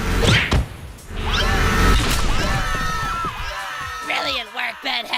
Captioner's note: screaming